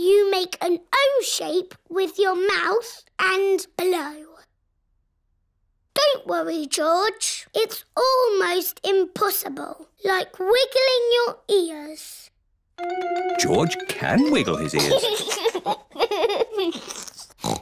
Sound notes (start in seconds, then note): 4.6 silence; 14.3 giggles